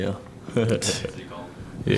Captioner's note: laughing